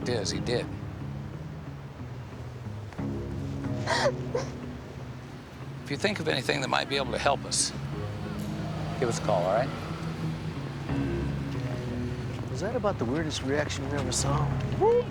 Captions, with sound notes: Well, the fact is, he did. (sobbing) If you think of anything that might be able to help us, give us a call, all right? Is that about the weirdest reaction you ever saw?